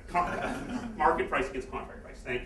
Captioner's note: laughter